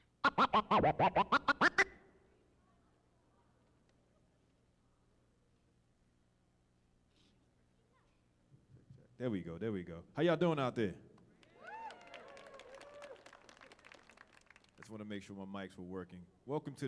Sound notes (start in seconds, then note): 11.4 audience clapping and cheering